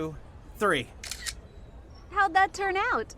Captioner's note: camera shutter clicks